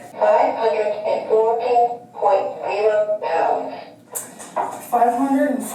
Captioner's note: electronic Voice